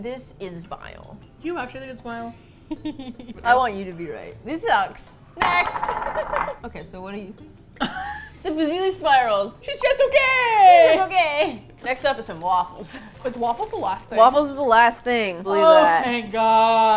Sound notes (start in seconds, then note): 2.7 laughs mischievously; 7.8 laughs